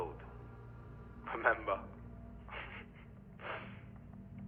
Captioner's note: laughs